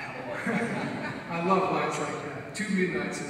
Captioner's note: audience laughs